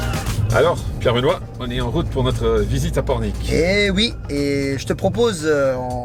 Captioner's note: men conversing in foreign language